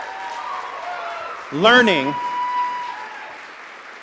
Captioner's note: applause